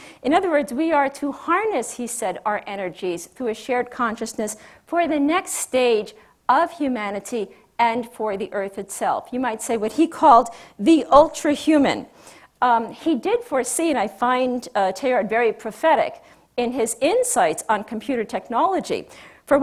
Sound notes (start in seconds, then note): none